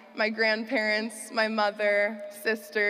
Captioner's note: none